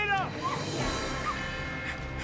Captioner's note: gasping in protest